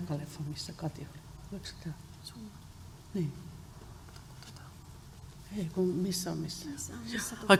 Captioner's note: speaking finnish